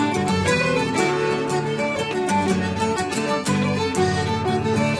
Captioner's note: none